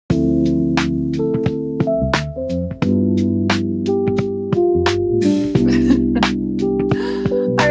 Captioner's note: laughs